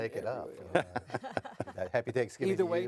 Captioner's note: laughing